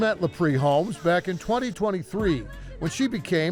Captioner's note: machine whirring